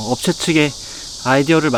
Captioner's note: quick breath